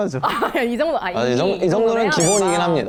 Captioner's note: hurriedly